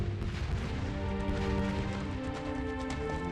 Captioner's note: gun fire